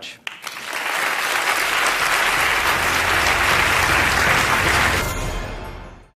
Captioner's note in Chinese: Applause; 掌聲